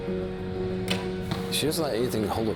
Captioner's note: arrow hitting target